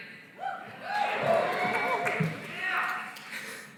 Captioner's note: cheering